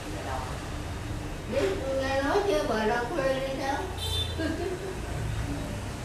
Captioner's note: laugh